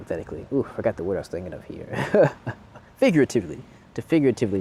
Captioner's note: chuckles